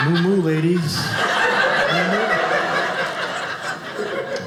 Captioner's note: audience laughing